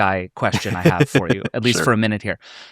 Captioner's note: laughing